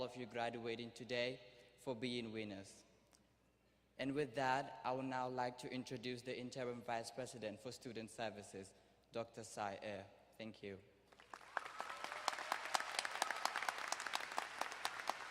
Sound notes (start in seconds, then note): 11.1 crowd applauding